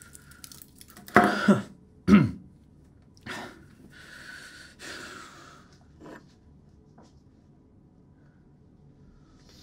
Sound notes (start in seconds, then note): 2.0 York clears throat